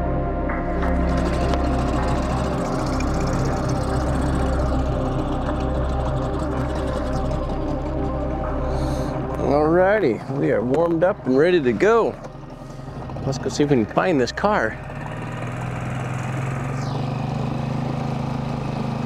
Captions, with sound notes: (motor rustling) - Alrighty, we are warmed up and ready to go. Let's go see if we can find this car. (motor rustling)